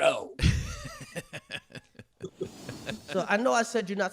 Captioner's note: laughing